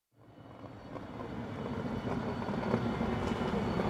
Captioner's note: plane roaring